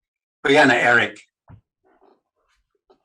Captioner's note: speaking in Native Language